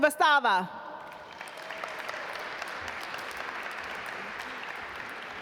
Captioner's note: audience applaud